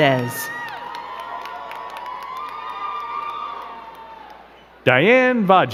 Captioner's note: crowd cheering and clapping